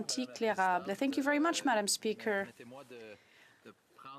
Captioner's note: speaking French